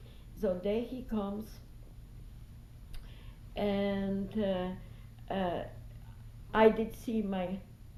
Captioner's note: pauses for 3 seconds